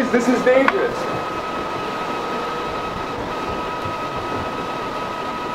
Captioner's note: howling, high pitch wind